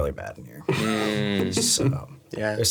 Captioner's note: laughing